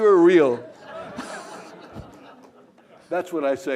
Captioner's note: laughter